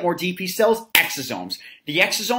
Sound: claps hands

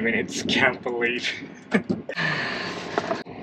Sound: chuckles

